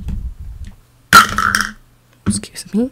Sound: spills empty cup

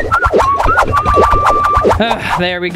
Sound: stirring and whistling

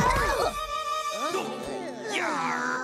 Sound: all groaning

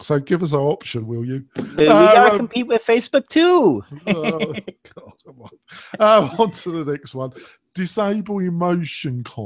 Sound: both laugh

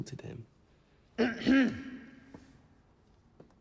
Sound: Mr. Farouk clears throat

